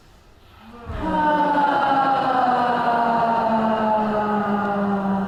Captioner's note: loud sighing